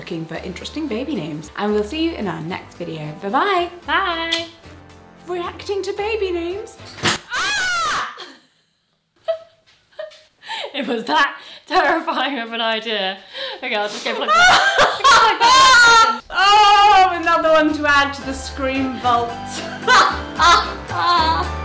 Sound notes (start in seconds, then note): 6.9 fuse popping; 7.3 yelps; 9.1 they laugh; 15.7 laughs; 19.6 laughs